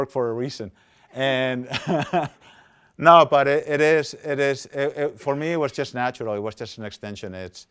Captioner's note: laughs